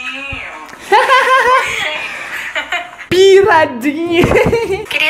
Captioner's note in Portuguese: risos